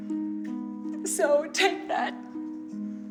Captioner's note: crying